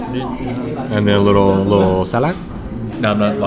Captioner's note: speaking Vietnamese